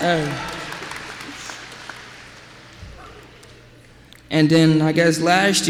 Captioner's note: applause